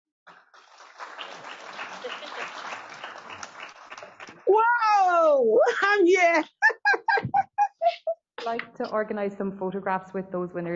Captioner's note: applause